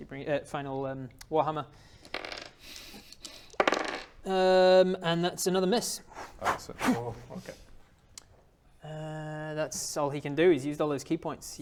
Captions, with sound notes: er final um warhammer Urm...and that's another miss *pfffph ffffpt* Okay that's all he can do, he's used all his ki points